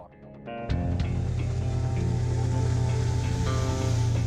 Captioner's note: engine hums